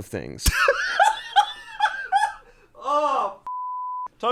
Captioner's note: laughs; beep